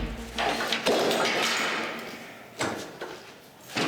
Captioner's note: clong